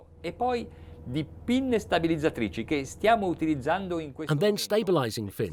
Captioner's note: speaking in a foreign language